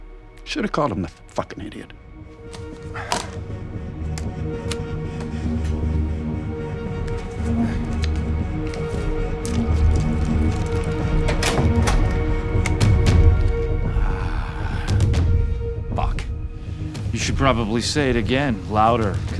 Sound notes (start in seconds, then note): 2.4 headphones thudding; 2.8 Bryan sighing; 6.0 tense music; 10.2 door latch clicking